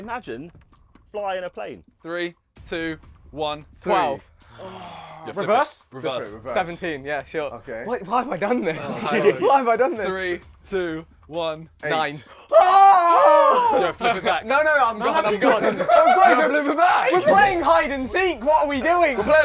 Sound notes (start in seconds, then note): 4.4 everyone sighs; 8.7 laughs; 12.2 gasps; 13.2 everyone talking and laughing